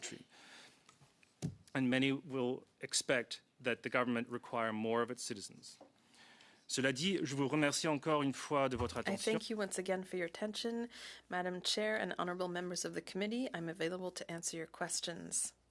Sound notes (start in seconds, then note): 10.5 speaking French